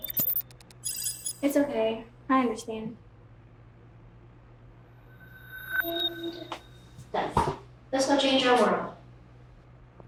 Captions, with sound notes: - It's okay. I understand. (computer chimes) - And... done. Let's go change our world.